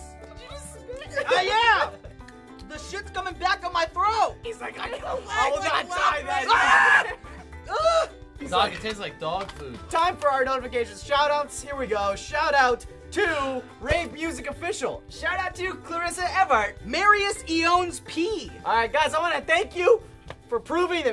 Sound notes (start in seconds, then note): 5.3 screams